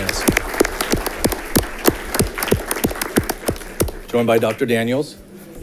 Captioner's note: audience clapping